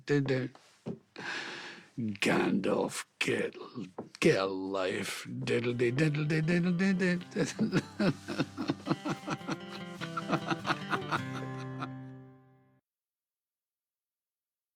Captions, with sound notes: "Gandalf." Get-- Get a life. [HUMMING]